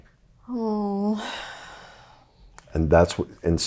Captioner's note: sighs